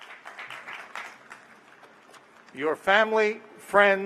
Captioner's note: applause